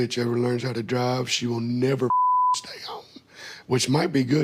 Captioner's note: beep